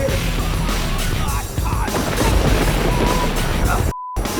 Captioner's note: thunder crashing; gangsters jeering